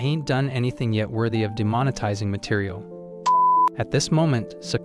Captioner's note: beep